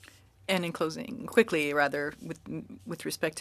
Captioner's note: speaking french